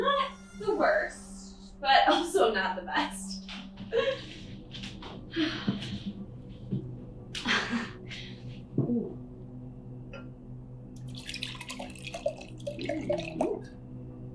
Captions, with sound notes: Not the worst, but also not the best. (laughs) (sighs)